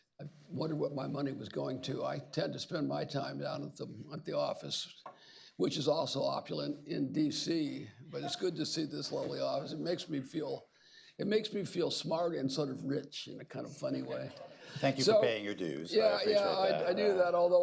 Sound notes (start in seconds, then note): 14.1 laughter